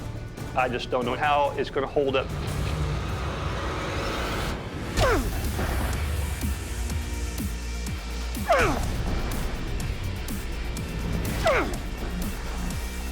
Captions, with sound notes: I just don't know how it's going to hold up. [rock music] [grunting]